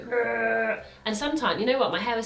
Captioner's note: groans